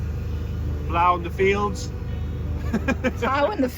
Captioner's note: laughing